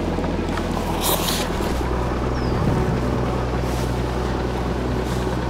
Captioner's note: rope shuffling